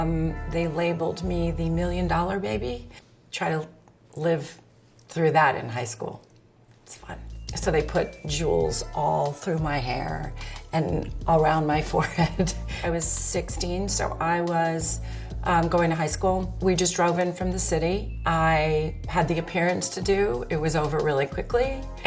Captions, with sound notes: they labeled me the Million Dollar Baby. Try to live through that in high school. It was fun. So they put jewels all through my hair and around my forehead. [laughs] I was 16, so I was going to high school. We just drove in from the city, I had the appearance to do, it was over really quickly